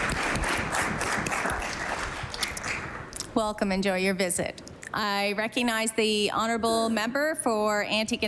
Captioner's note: applause